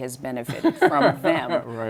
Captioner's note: laughter